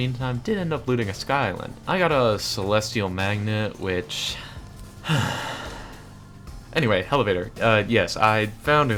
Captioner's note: sighhhh